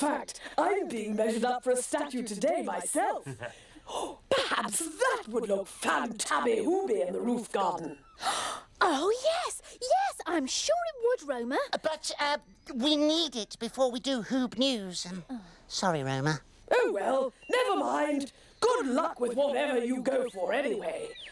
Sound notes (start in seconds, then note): 7.8 gasps